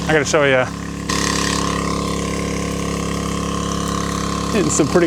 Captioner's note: motor running